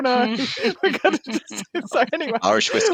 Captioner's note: laughter